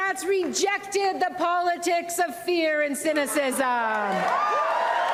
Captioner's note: applause